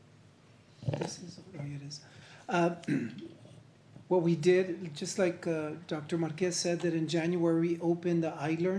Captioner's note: clears throat